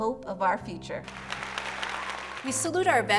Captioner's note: applause